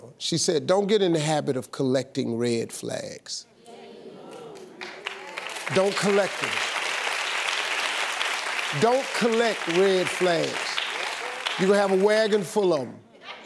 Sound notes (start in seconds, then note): 3.6 audience muttering; 5.4 audience applauds